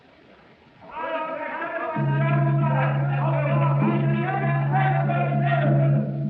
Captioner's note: men shouting